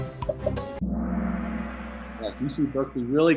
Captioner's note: gong